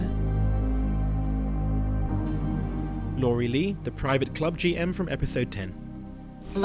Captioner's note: voiceover